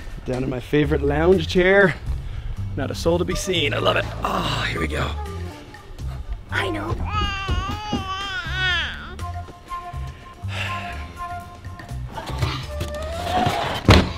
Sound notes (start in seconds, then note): 0.0 light hearted music; 6.5 baby babbles; 10.2 dad sighs; 13.3 box thuds; 13.9 light hearted music